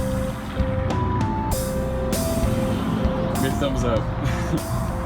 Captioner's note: vehicle engines roaring